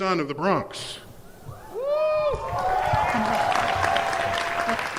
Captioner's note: cheers and applause